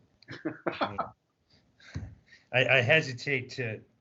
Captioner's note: chuckling